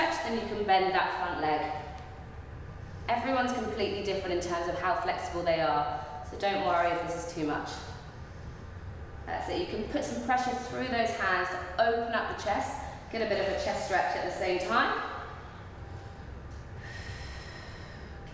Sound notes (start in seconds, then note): 16.7 breathing